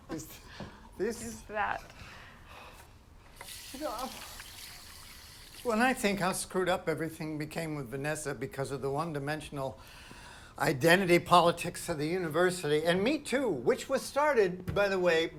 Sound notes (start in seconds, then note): 3.4 water splashes